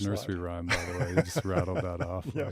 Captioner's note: laughing